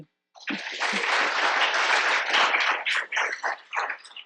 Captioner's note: audience applauds